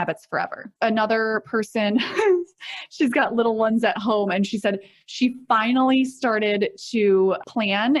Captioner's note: chuckles